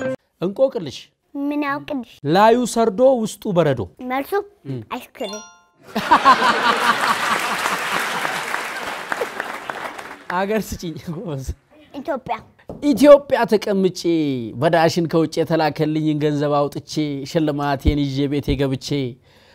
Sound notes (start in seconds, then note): 5.8 laughter and applause